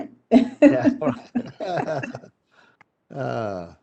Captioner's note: chuckles